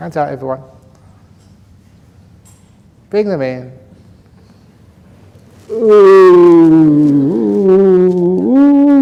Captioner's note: laughs